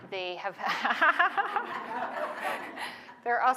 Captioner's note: laughter